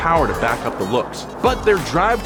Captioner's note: car whirring